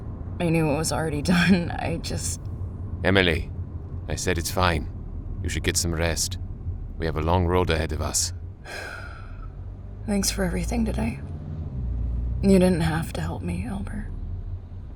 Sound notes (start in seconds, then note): 8.6 Emily sighs